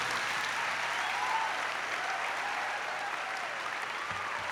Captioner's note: applause